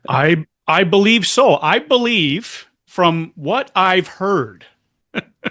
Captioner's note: laughter